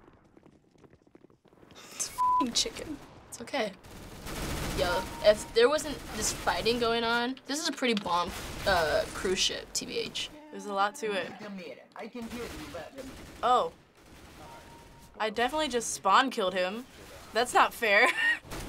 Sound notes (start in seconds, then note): 3.8 firing; 18.4 gun blasting